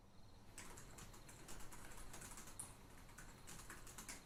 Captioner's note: typing